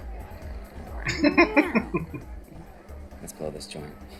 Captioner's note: chuckling